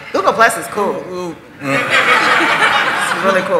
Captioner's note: laughter